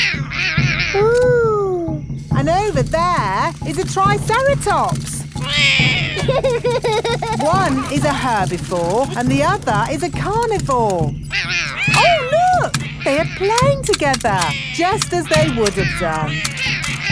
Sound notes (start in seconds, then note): 0.3 roaring; 5.4 laughs; 5.4 roars